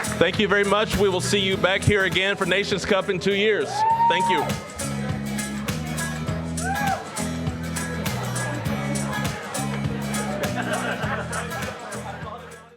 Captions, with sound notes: Thank you very much, we will see you back here again for Nations' Cup in two years. Thank you. (carefree upbeat music) (general chatter)